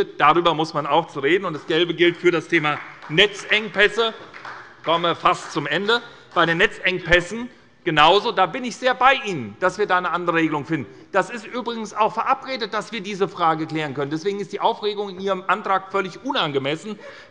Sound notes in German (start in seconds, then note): 4.0 Beifall bei der SPD